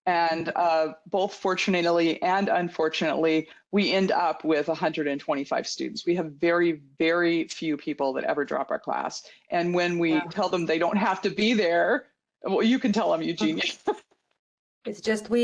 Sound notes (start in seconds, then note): 13.4 chuckles